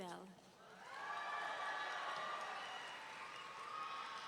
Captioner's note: audience cheering